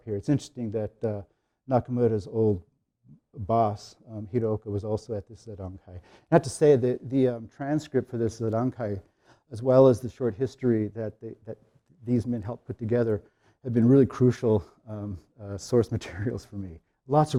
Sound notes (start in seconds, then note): 5.3 speaking in Japanese; 8.6 speaking in Japanese